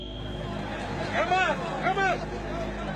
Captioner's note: shouting